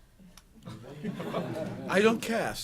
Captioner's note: laughter